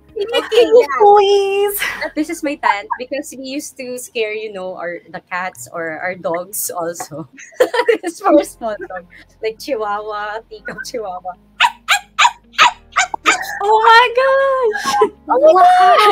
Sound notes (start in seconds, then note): 6.0 laughing; 11.6 Ynna dogs barking